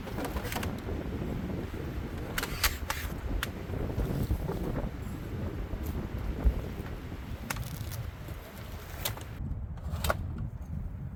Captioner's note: wind howling